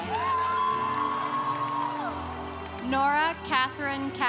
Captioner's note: congregation cheering